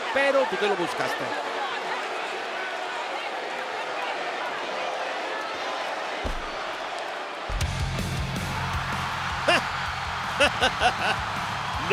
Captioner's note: applause